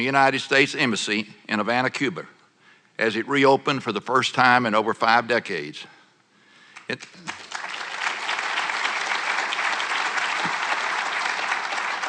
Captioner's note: applause